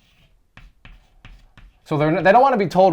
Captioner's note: chalk writing